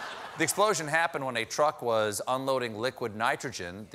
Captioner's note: laughter